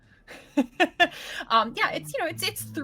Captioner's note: laughing